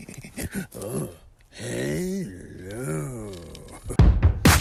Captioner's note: fast panting; grunting; upbeat music